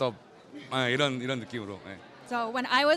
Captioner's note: speaks in a foreign language